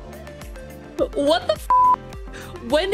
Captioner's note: beep